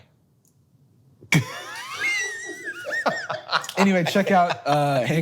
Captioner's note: Hank laughs